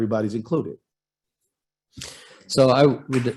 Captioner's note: applause